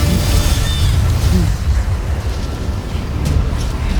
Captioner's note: evil energy whoosh & crackle; tense music playing